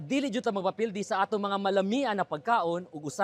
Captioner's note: none